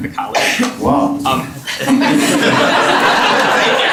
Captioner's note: laughter